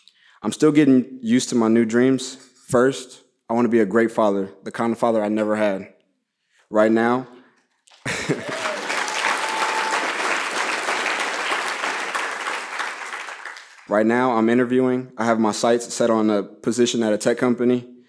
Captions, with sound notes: I'm still getting used to my new dreams. First, I want to be a great father. The kind of father I never had. Right now, [laughs] [cheers and applause] right now I'm interviewing, I have my sights set on a position at a tech company,